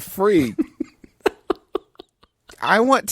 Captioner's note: giggles